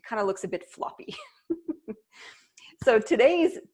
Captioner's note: laughing